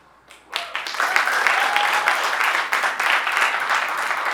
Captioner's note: audience applauding